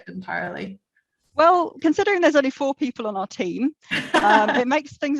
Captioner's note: laughter; laughs